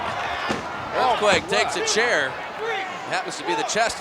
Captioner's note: laugh